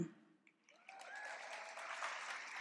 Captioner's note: applause and cheering